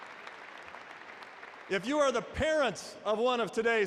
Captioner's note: applause